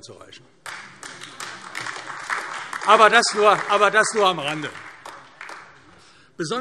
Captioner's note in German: Heiterkeit und Beifall AfD